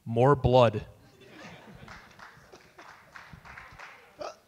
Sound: audience laugh

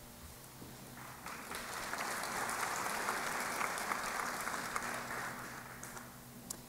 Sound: applause

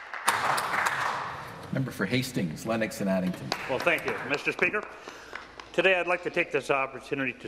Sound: applause

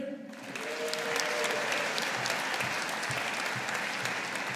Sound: audience applauding

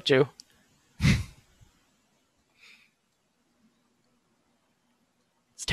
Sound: silence

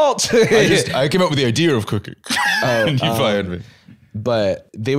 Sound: laughs

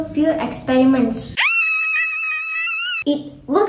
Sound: girl screaming

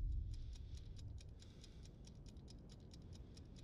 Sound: timer ticks

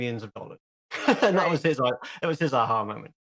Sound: he laughs

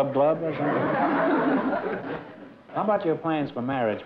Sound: laughter

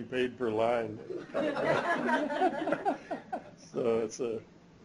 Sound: laughter

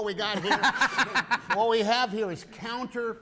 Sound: laughter

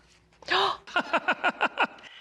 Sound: gasping; laughing

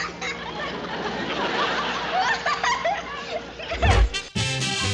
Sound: laughing

